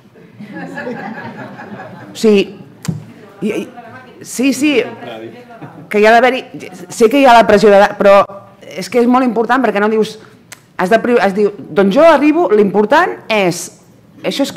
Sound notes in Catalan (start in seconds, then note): 0.4 riures; 3.1 parla sense micròfon